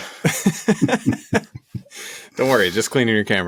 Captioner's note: laughs